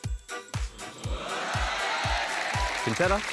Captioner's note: cheering, applause